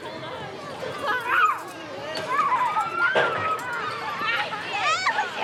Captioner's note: children murmuring